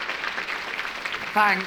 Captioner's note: applause